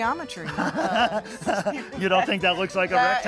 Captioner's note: laughter